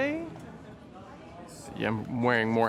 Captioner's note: crowd chatter